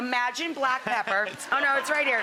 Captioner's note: audience laughing